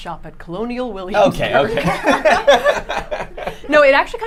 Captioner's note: all laughing